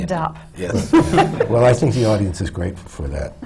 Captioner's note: laughter